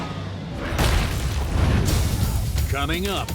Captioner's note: dramatic music; logo slams